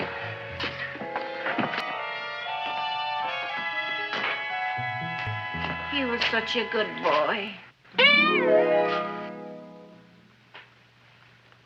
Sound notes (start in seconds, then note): 2.5 feet thumping; 8.5 petals popping